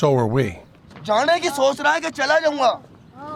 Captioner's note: non-english speech